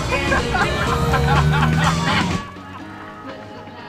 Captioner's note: laughter